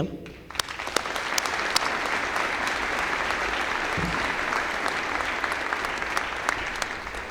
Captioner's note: applause